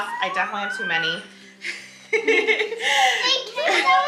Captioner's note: coos; laughs